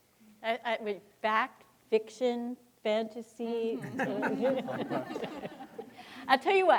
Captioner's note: audience laughing